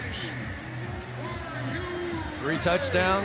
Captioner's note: pa announcement